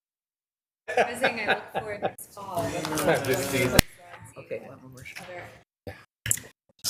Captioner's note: people laughing